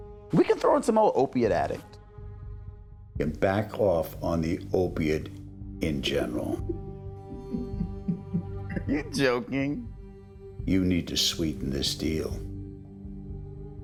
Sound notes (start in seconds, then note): 7.3 chuckles